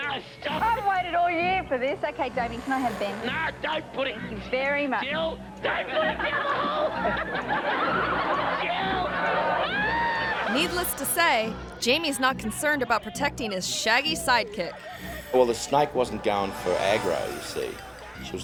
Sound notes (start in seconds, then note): 5.8 group laughing; 6.9 suspenseful music; 9.6 screams